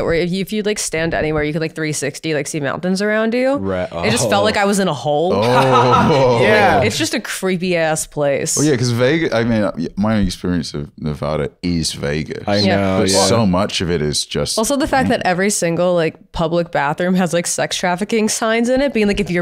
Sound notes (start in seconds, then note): 5.3 laughs